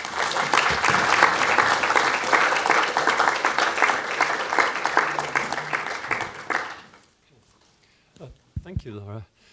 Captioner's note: applause